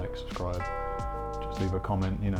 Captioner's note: bell dinging